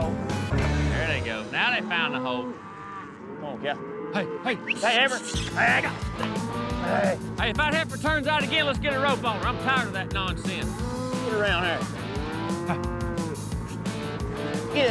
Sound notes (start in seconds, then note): 4.6 whistling; 12.7 mooing